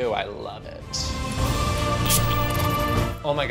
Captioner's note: dramatic music; snips, sprays, squirts